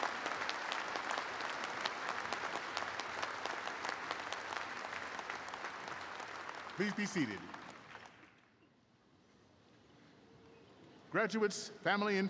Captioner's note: applause